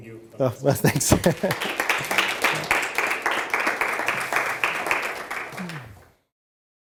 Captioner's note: chuckles; audience applauds